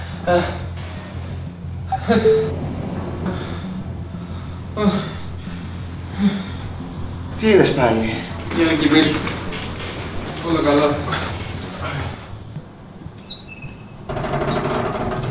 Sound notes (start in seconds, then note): 0.2 groans; 1.9 oxygen concentrator sound; 4.7 groans; 13.1 fixture creaking